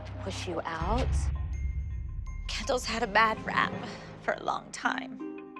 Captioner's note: voice breaking